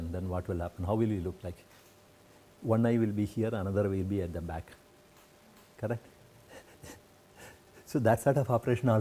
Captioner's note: laugher